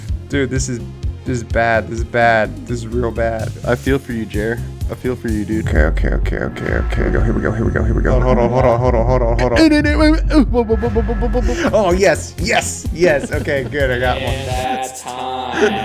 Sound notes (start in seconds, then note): 10.0 murmurs